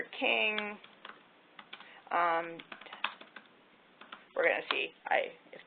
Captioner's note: typing